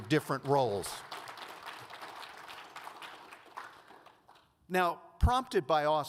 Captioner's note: audience applauds